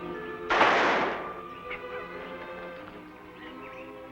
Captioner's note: gun firing